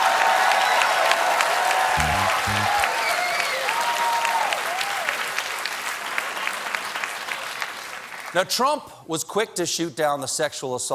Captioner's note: cheers and applause